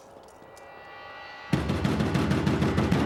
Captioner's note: pounds on the door